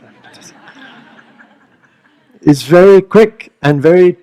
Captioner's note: laughter